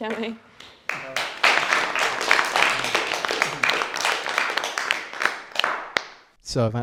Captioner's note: applause